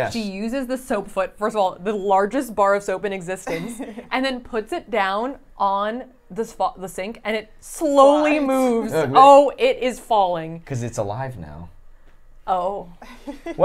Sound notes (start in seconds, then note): 3.4 laughs